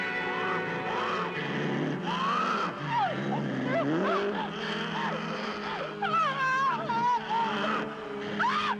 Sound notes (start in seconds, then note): 3.5 growling; 5.7 panicked screaming